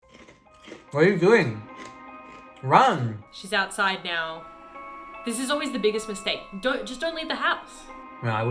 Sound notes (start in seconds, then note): 0.0 chewing sound